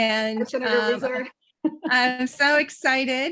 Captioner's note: chuckles